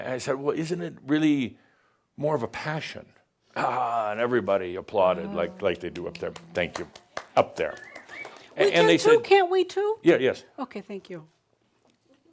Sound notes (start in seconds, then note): 5.4 applauds; 7.6 someone whistles